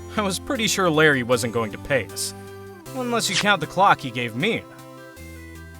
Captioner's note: none